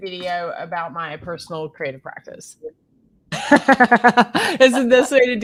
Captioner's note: laughs